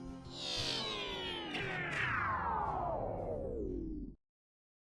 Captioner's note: electronic whirring